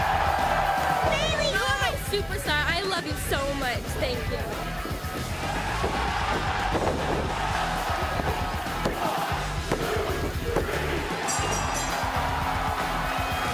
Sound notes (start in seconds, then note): 5.2 cheers and applause; 11.2 bell ringing